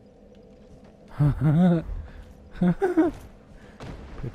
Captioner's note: laughing gleefully